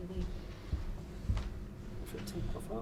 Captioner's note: heavy footfalls